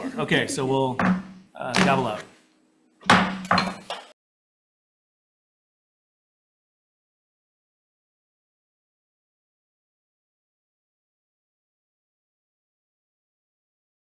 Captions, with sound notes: - Next door, okay, so we'll gavel out. (gavel taps)